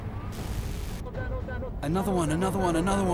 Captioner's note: man speaking French